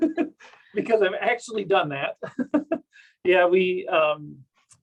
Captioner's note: chuckles